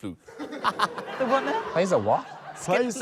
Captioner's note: laughs